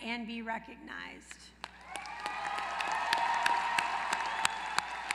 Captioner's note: applause